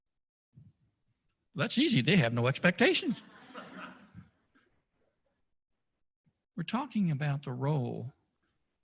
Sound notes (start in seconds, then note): 3.1 laughter